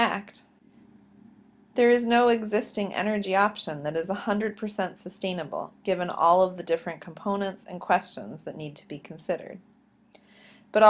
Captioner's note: click